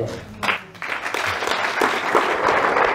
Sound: hand clapping

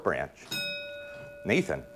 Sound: dings

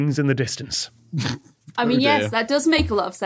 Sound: snorts

